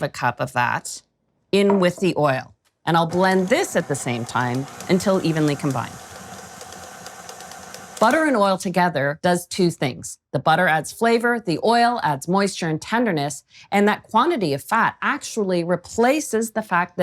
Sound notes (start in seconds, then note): 6.3 quiet whirring